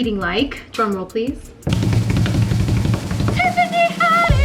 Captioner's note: making drum noises